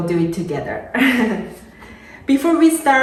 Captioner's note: chuckling